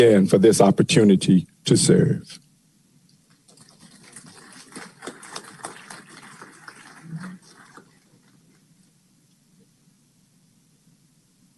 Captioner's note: applause